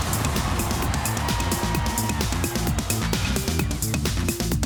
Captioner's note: cheers and applause